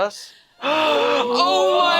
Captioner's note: gasps